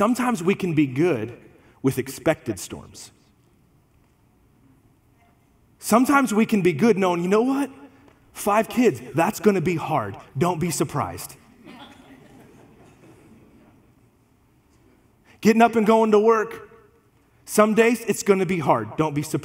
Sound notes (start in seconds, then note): 11.5 congregation laughs